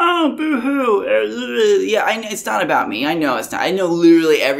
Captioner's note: boo hoo sounds